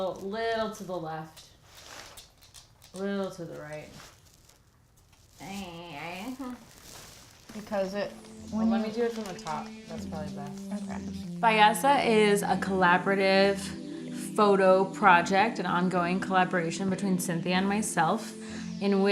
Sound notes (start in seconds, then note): 5.4 making conflicted noises; 7.5 conversing